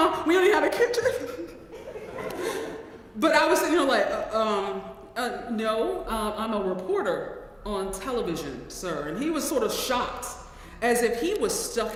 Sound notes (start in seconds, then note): 1.0 laugh